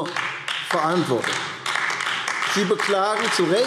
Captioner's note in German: Beifall AfD